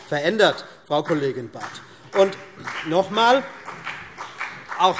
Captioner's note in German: Beifall CDU und BÜNDNIS 90/DIE GRÜNEN